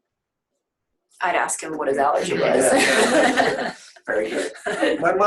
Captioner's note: laughs